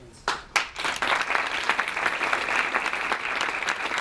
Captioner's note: clapping